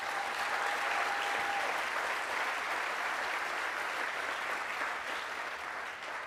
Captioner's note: applause